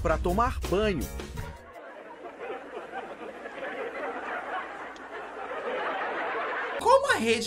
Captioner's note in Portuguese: risos